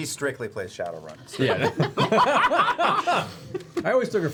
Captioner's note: laughter